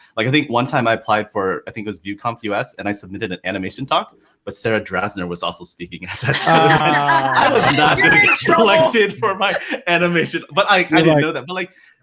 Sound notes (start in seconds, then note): 9.1 laughter